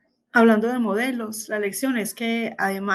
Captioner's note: speaking spanish